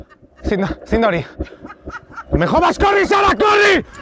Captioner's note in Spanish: risas